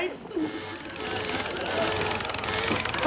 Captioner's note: needle buzzes